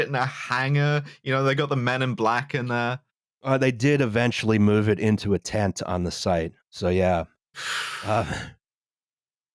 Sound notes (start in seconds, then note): 7.6 breathes out noisily